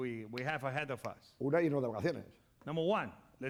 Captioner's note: speaking spanish